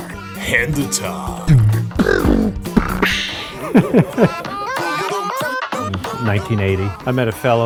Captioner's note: playful music; laughter